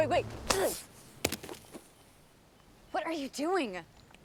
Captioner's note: Noah grunts